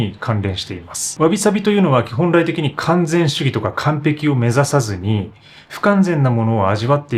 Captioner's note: poetry-speaking verses